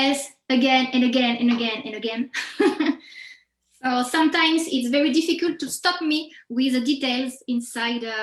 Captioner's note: chuckles